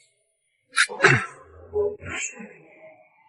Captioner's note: cough cough